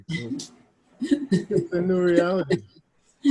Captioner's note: laughs